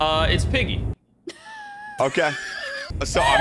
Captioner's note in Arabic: تضحك; ضحكة مكتومة